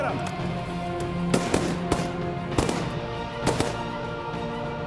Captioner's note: gun shots